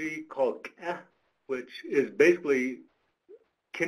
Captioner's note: speaks foreign language